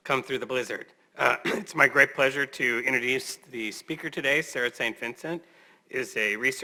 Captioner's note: cough